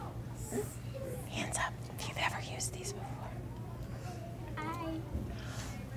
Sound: whispering

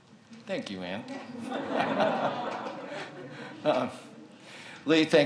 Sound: audience laughs

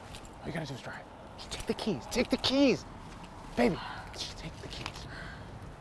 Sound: exhales

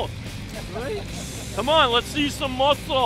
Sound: men chuckling

